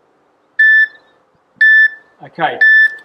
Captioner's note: beeping